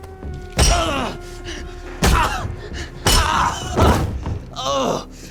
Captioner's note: groaning